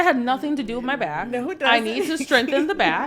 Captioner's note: laughs